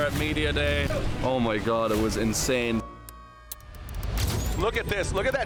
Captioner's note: flash bulb clicks